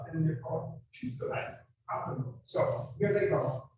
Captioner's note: speaking in a foreign language